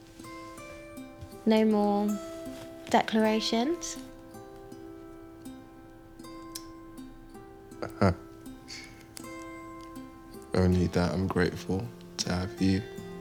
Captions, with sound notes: - No more declarations. (gentle music) (Nikolai chuckles) - Only that I'm grateful to have you.